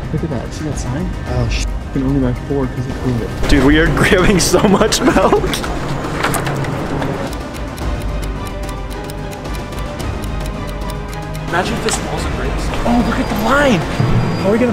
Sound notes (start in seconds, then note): 4.4 laughs; 6.2 clock ticking; 7.0 tense music